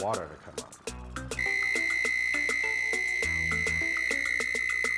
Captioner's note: timer blaring